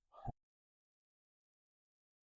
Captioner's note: long silence